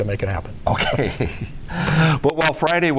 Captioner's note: laughs